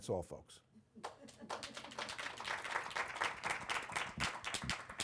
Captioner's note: audience applauding